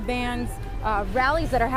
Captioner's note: sirens